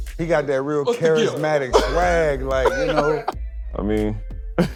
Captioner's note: laughs